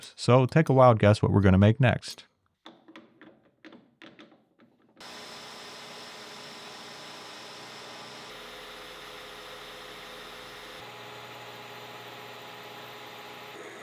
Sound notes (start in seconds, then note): 3.7 metal cluttering; 5.0 machine whirring